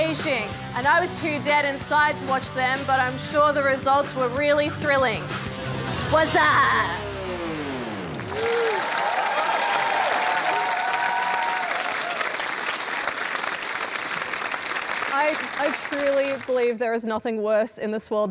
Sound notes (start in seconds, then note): 8.1 cheering and applause